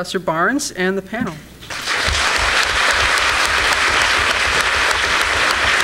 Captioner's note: applause